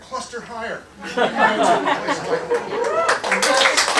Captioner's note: laughter, applause